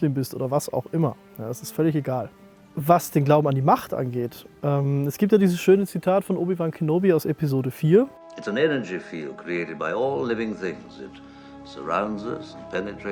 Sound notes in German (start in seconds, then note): 8.4 Er spricht auf Englisch